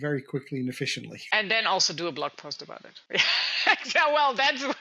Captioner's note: laughing